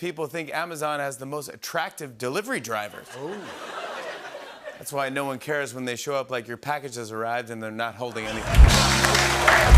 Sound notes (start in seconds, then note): 2.9 laughter